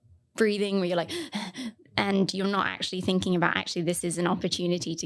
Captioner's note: breathing sounds